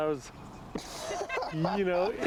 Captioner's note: laughs